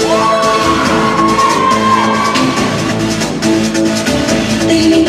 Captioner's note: cheering